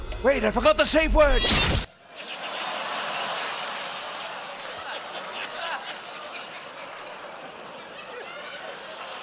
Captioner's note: laughter